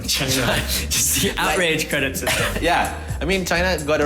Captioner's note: chuckles